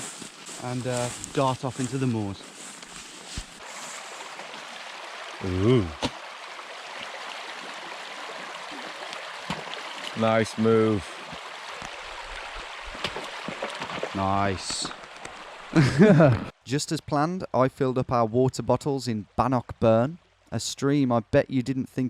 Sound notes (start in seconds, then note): 6.5 water trickling; 15.7 both laughing